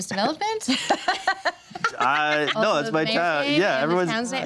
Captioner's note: everyone laughs